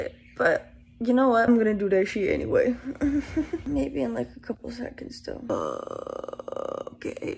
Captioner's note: croaky voice